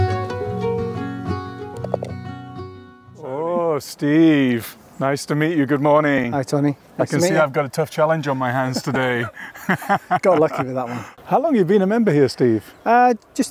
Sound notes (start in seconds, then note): 1.8 golf ball thuds; 8.2 laughs